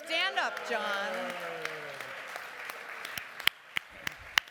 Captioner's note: applause